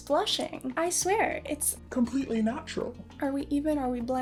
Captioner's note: deep robotic voice